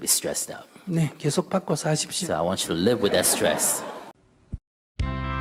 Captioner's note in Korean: 청중 웃음